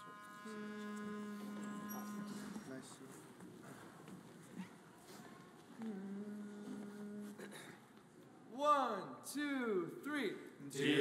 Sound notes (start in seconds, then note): 0.0 soft music; 5.8 group humming